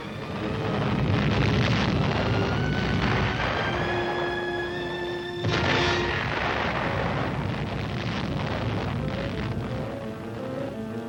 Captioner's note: music, explosions